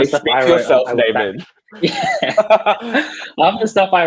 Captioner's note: laughing